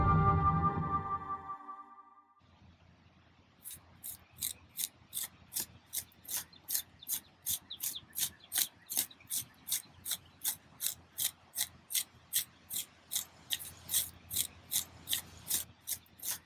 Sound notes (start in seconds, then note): 3.6 trowel scraping